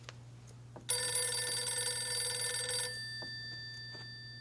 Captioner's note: phone rings